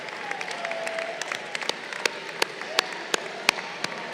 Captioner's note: crowd applauding